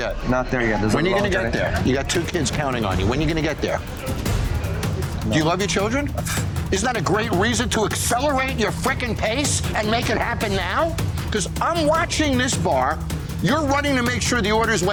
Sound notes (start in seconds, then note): 4.0 tense music; 6.2 scoffs